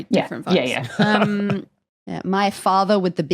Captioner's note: chuckles